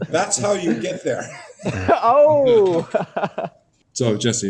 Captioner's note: laughing